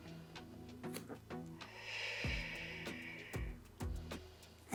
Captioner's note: exhales; exhales